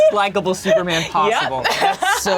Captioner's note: laughing